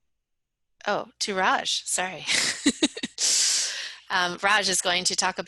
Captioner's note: laughs